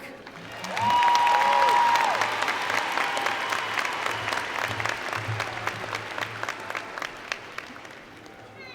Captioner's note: applause & Cheer